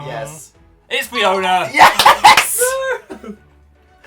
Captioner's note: laughing